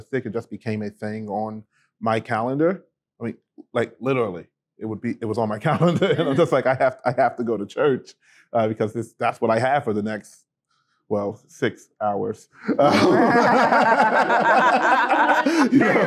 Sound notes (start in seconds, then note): 12.6 laughter